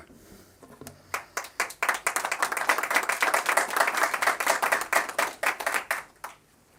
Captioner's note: applause